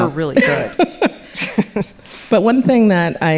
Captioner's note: laughing